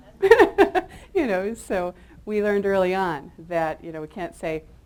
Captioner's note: chuckles